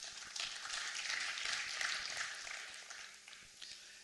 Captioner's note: applause